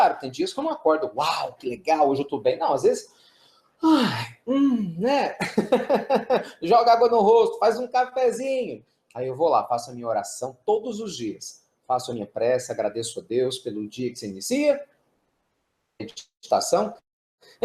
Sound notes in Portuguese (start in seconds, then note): 5.4 risos